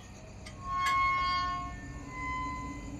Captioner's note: gate creeks